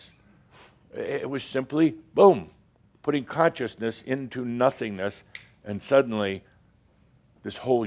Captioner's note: snap!